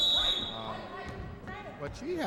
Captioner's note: referee whistling